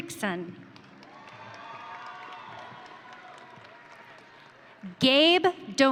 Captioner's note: audience cheering